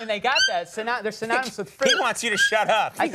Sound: bird chirping

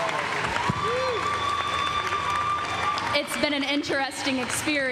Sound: cheers and applause

